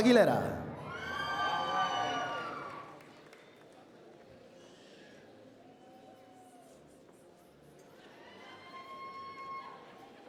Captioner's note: applause